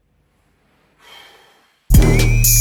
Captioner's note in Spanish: Suspiro